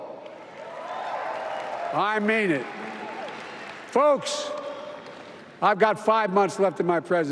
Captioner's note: applause